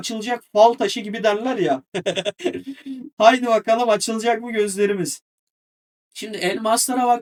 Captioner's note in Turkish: kahkaha